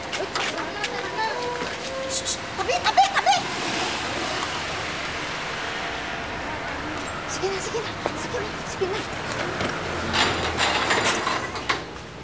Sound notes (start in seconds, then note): 3.2 car engine revving; 10.0 gate clanging